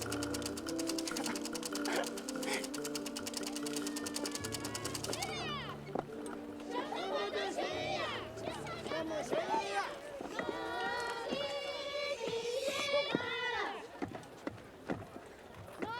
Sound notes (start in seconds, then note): 4.0 people Chanting In Tibetan; 10.0 group Singing Work Song In Tibetan